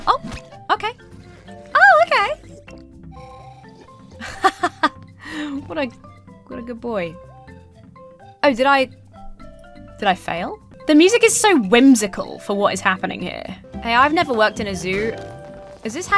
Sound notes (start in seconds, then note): 4.2 chuckles